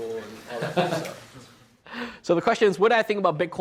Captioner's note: laughs